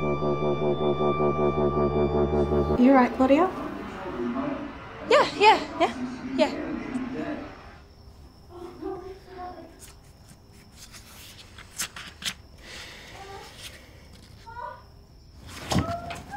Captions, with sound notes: Are you 'right, Claudia? Yeah, yeah, yeah. [Sighs] [Gasping from other room]